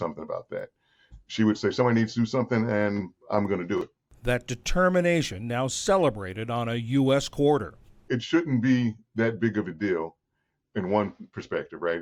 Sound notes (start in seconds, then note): 4.8 voice-over